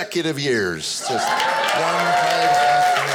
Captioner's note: audience applauding